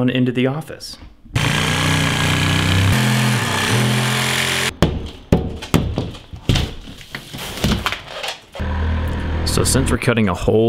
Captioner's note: sawing sounds